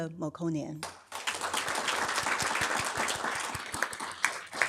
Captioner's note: audience applauding